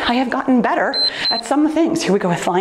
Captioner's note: timer beeps